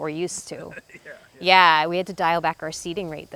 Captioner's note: laughs